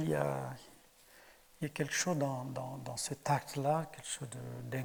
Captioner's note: speaking in French